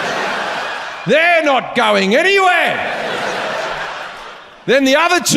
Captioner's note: audience laughs; audience laughs